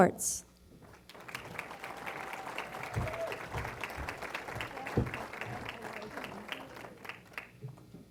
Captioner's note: applause